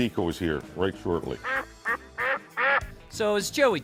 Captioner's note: duck quacking